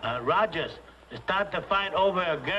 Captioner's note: spanish accent